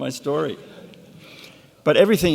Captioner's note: laughing